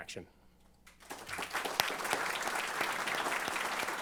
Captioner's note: applause